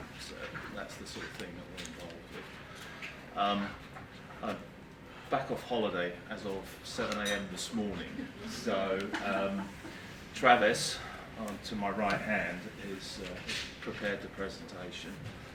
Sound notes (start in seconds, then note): 8.0 group laughing